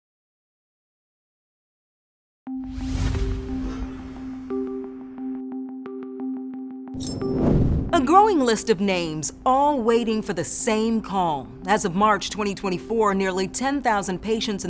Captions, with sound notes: (soft music) (logo whooshes) A growing list of names all waiting for the same call. As of March 2024, nearly 10,000 patients